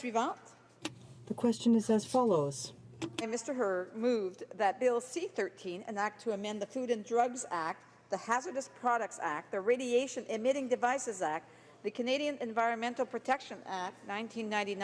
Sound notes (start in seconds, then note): 2.8 speaking in French